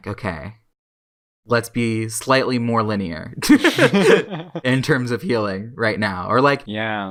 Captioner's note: both laugh